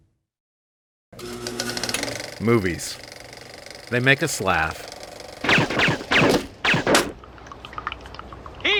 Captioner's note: gunshots